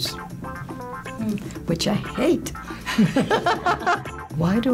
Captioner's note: laughs